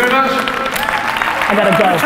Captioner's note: audience applause